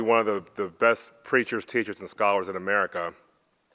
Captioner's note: none